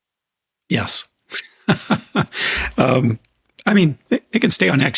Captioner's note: laughs